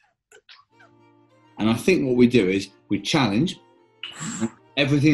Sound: sharply inhales

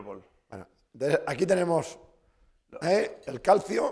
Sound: speaking spanish

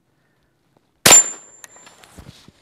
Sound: bang

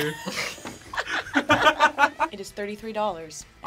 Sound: both laugh

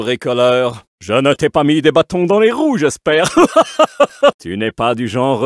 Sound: maniacal laugh

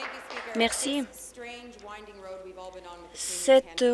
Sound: applause

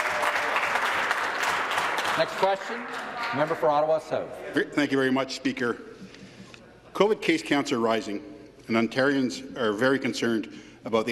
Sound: applause

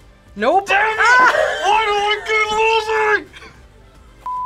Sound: laughs

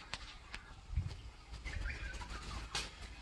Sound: birdsong

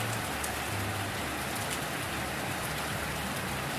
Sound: rain Sounds

